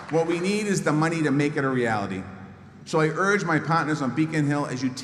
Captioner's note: applause